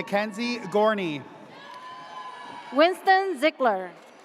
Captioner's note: audience cheers